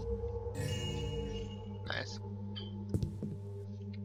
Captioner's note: joyous chime